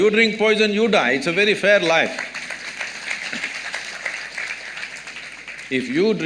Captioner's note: applause